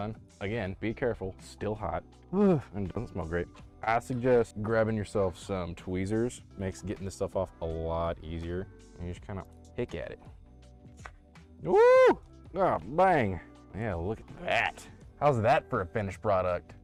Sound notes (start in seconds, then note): 2.4 wheeze; 11.6 excitement